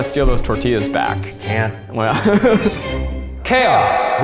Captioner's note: laughs